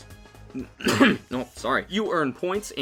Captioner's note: coughs